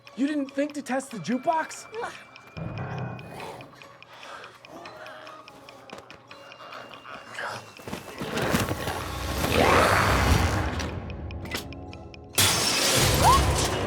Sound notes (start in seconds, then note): 4.0 glowzies growling; 8.7 glowzies growling; 11.3 device clicking; 13.6 Kirsten yelps